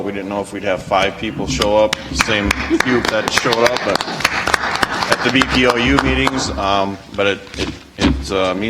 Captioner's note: audience applauds